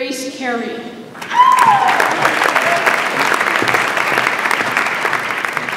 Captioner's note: audience applauds